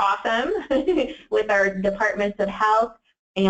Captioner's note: laughs